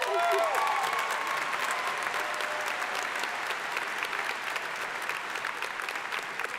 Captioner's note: crowd applauding; crowd cheering